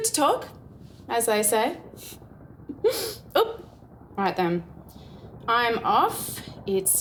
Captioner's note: giggle